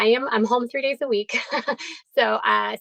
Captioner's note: chuckles